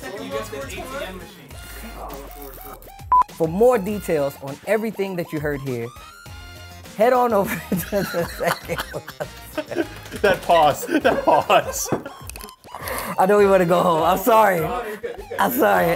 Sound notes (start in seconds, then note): 3.1 beep; 7.4 both laughing